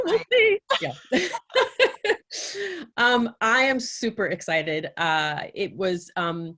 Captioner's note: laughing